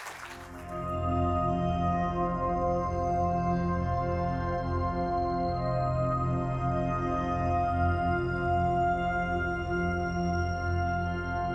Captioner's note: applause